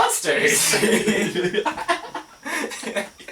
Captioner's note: laugh